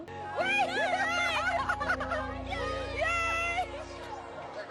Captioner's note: yelling excitedly